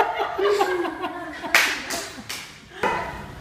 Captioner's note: laughter